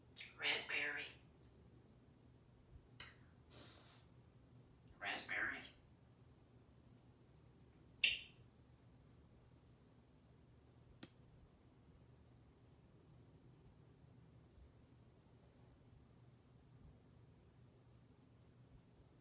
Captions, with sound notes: Raspberry! Raspberries. [smooch]